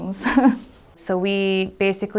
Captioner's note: laughs